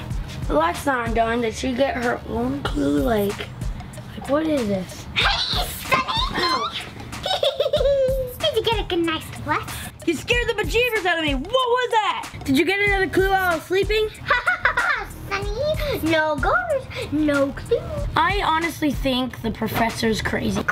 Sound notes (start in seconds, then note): 5.1 laughing